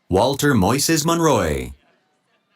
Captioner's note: none